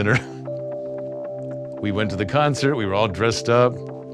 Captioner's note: laughs